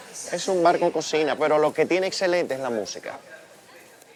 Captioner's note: distant Chatting